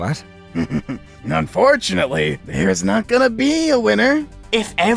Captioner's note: laughs